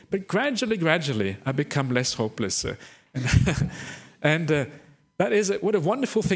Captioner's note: laughs